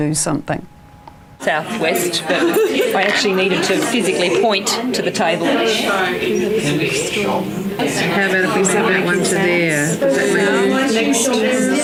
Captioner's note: audience chatter